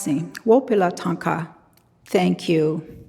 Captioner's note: speaking in a foreign language